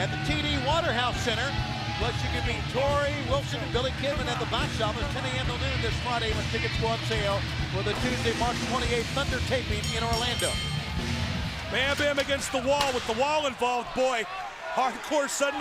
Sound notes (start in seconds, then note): 9.7 bell ringing